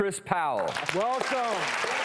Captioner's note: audience applauds